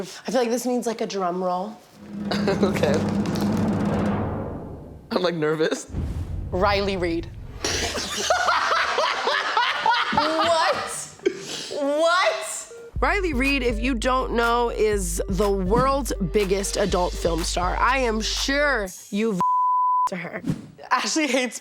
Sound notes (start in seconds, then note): 1.9 dramatic music; 2.8 laughs; 7.6 all laughing